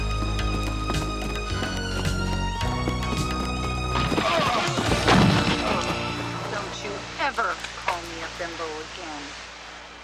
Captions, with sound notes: (men groaning) (bodies thudding) - Don't you ever call me a bimbo again.